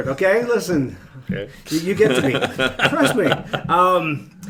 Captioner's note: laughing